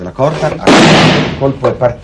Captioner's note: explosion